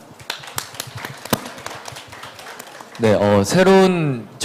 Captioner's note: claps